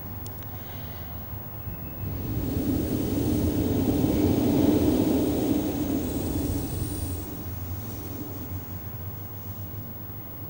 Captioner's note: blows into the microphone